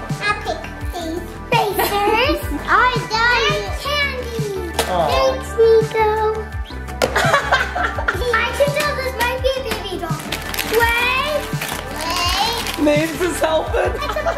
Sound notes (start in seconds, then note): 1.7 mom laughs; 7.1 dad laughs